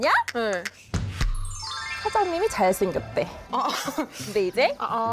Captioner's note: excited sound effect